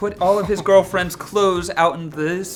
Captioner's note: snickering